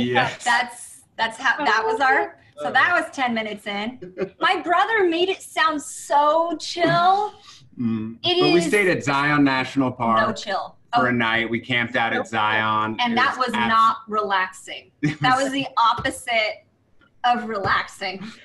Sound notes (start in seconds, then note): 4.0 laughing; 18.2 all laughing